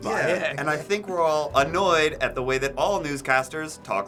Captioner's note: professional voice